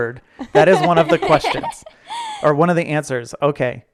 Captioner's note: laughing